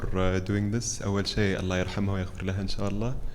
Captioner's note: speaks Arabic